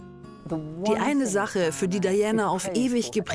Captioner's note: voiceover